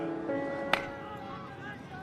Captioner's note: crowd chatter